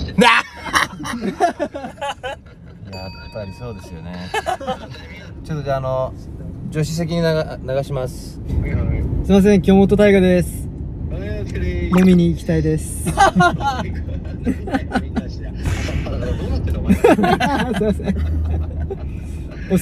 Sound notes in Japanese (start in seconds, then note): 2.9 効果音 チーン